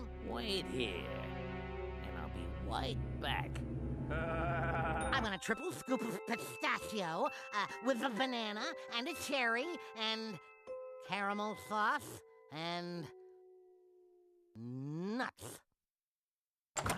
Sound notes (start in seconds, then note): 4.1 laughing fiendishly